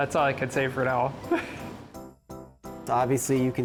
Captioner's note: chuckles